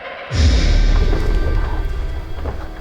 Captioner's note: eerie horror sounds; bizarre crash sound